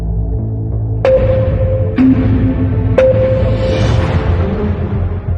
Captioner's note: countdown sound effects